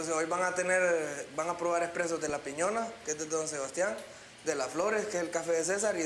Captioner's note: man Translating In Spanish